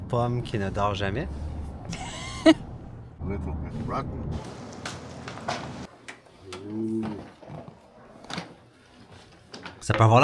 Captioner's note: laughs